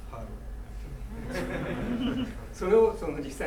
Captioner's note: laughing; speaking in foreign language